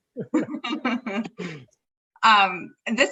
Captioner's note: both laugh